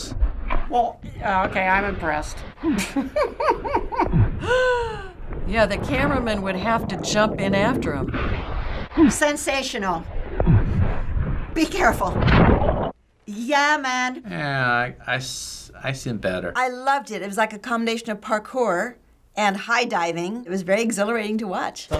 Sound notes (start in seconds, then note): 2.6 chuckling; 4.2 gasping